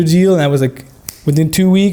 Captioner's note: snapping fingers